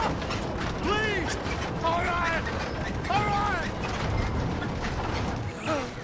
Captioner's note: continues screaming